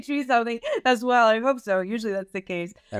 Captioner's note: laughs